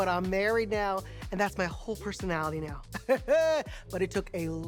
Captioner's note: laughs